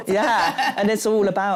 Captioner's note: laughs